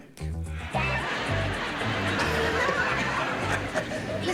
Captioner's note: laughter